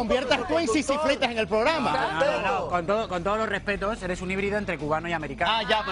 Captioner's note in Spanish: risas